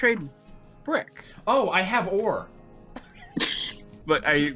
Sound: laughter

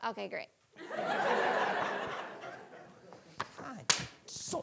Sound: audience laughing

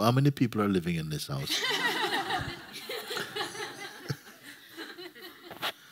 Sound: laughter

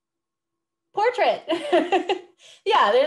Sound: laughs

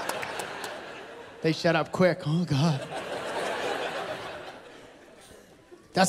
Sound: laughter

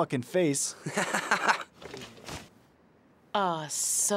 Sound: laughs

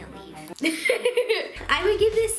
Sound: laughing

